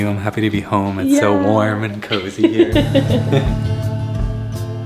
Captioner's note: laughs; calm music